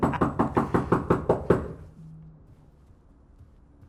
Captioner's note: knocks on door